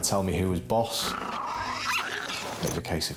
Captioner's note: Flossie growling and barking